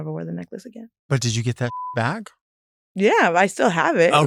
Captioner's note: beep